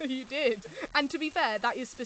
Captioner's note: laughs